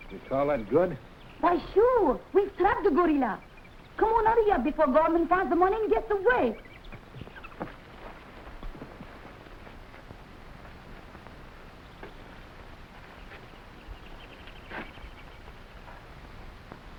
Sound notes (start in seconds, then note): 6.8 animals chattering; 7.0 footsteps echoing